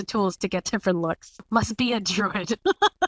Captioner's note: laugh